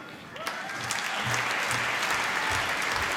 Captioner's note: applause